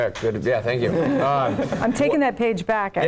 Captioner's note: laugh